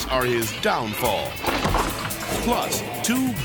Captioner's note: ladder thuds; person thuds; screen whooshes